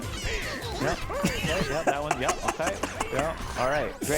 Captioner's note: laughing